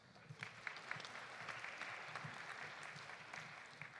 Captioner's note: audience applauding